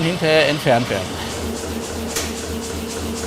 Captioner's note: repeated pumping